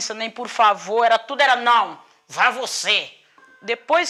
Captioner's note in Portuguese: Encenação de voz irritada